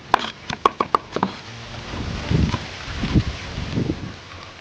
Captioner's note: fast chopping; chops loudly